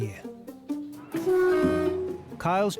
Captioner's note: horn honking